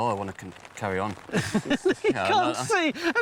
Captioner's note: laughing